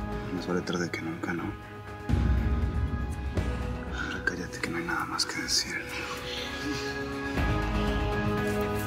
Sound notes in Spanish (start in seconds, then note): 3.6 Susurra